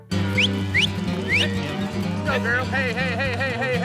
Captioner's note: whistling